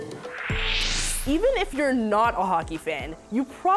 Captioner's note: whoosh